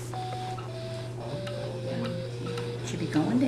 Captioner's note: descending tones